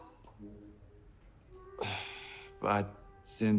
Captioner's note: sighing